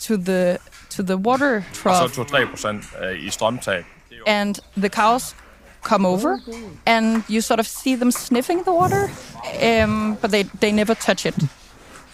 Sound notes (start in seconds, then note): 4.8 speaking Danish